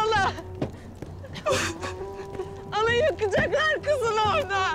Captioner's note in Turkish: Ağlama Sesleri